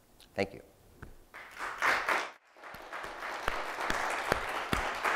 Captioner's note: audience applauding